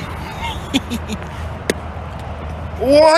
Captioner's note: thok